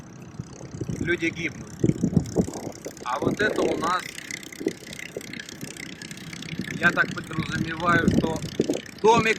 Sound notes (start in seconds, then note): 5.1 water sloshing